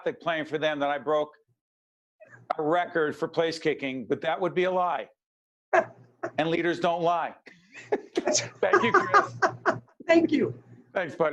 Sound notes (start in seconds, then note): 7.8 both laughing